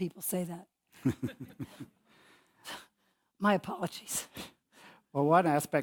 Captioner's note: laugh